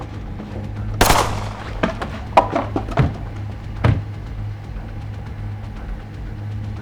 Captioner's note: gunshots boom; dramatic music